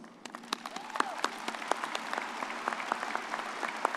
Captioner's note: all applauding